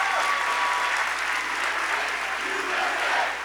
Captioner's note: applause